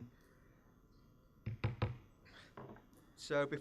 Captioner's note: gavel bangs